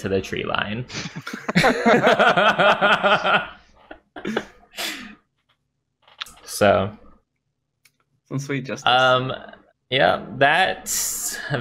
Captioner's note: laughter